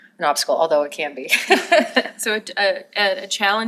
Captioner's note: laughter